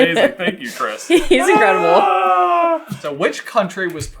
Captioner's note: dueling sighs of joy